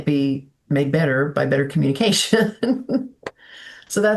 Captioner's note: laughing